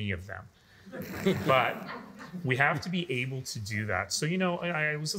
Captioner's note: all laughing